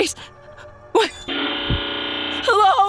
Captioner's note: TV buzzing